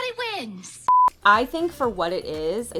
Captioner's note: audio beeping